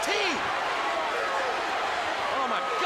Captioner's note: crowd cheering